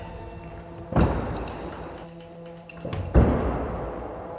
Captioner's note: doors banging